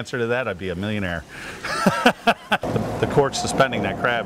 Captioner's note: laughs